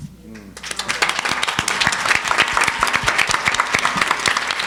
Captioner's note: audience applauding